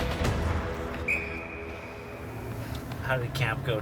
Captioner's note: whistle blow